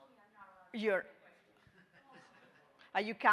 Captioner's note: speaking distantly; people chattering distantly